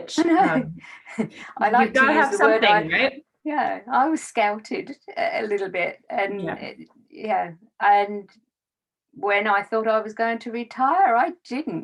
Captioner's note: laughs